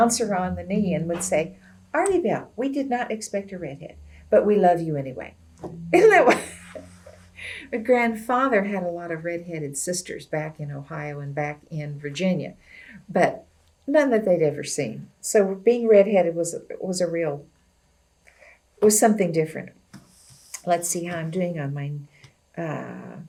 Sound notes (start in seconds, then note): 6.0 laughs